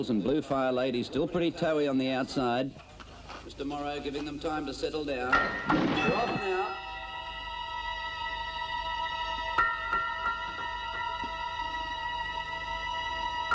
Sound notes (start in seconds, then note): 5.3 bell dings; 6.5 tense instrumental music